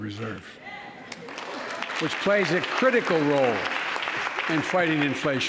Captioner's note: applause